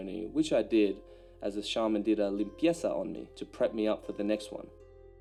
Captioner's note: speaks foreign language